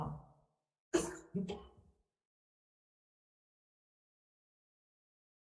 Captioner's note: member coughing